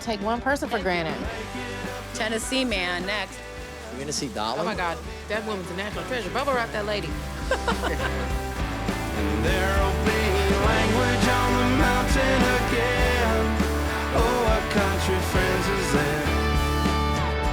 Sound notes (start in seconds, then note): 7.5 laughing; 8.9 rock music; 16.2 rock music